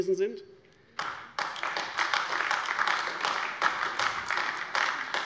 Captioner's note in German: Beifall AfD